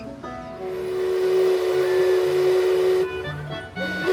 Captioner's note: Mark Twain Riverboat whistle blowing